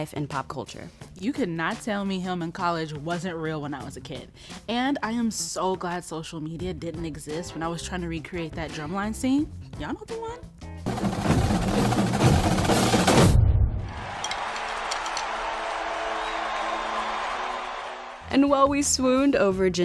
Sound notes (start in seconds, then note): 10.8 drumming; 13.7 crowd cheering